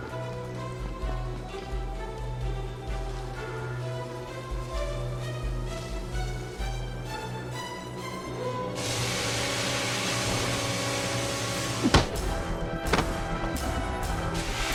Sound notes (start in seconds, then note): 8.8 hose hisses; 11.8 bar thudding